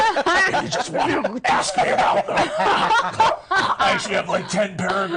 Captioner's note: others laughing; coughing